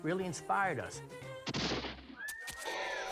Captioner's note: gun fires; screaming